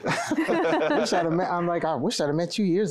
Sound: laughter

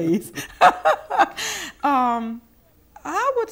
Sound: laughing

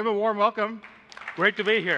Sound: applause

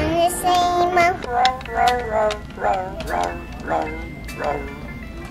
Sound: dog barking

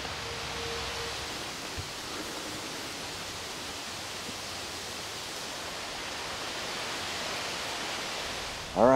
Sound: wind

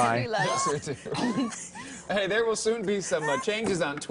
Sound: laughter

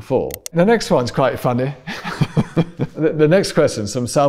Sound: laughs

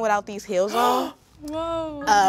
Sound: gasps

